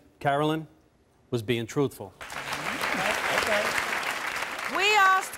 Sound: audience clapping

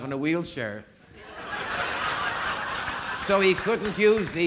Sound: audience laughing

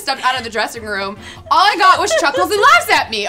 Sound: laughs

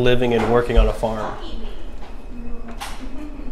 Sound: talking in background

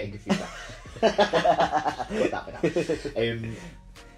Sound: both laugh

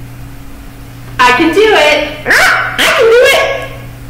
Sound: squawks like a parrot

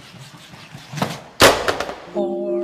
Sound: crash

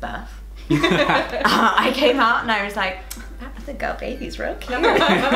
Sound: laughter

